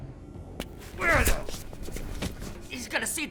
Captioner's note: Liam grunts